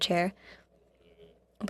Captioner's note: speaking French